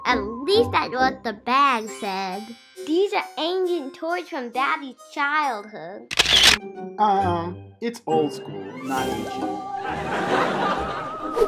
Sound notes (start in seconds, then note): 6.1 camera click; 9.8 laughter